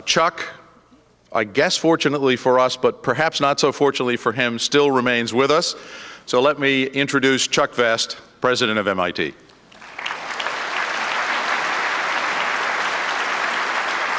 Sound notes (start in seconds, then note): 9.7 applause